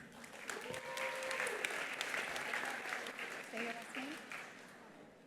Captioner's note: attendees applauding; attendees cheering